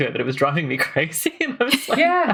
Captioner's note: laughs